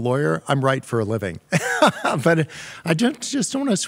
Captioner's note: laughs